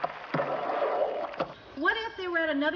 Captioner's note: tap continues